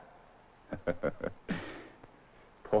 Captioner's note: chuckling